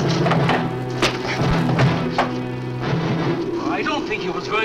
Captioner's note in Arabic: ضربات القبضة